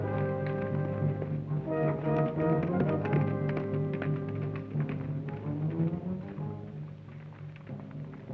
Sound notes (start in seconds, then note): 2.1 hooves clop